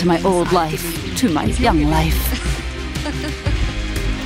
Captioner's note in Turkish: Gülüyor